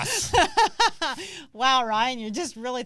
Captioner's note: laughs